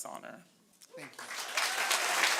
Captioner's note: cheering